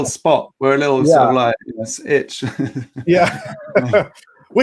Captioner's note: laughing